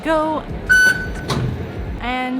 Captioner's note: beep